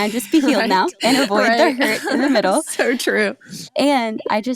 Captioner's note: laughs